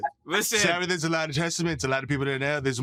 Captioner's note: imitating trump